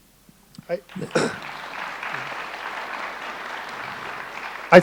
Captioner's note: audience applauding